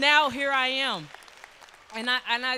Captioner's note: applause